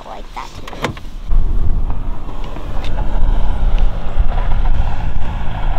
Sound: wind whipping loudly

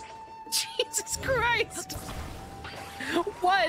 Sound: laughing

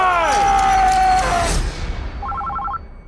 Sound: screaming; phone ringing

